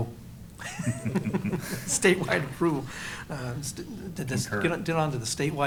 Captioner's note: laughter